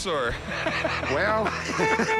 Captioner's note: laughs; car honks